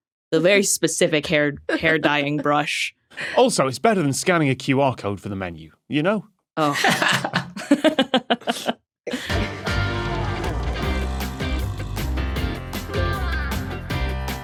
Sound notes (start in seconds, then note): 6.6 laughs